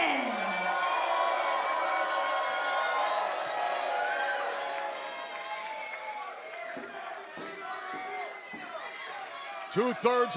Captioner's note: cheers and applause